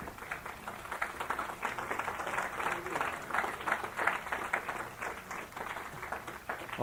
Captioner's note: applause